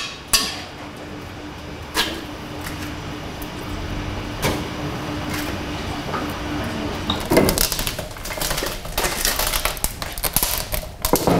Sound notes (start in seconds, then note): 6.9 crackling